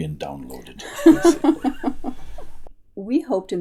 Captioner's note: laughter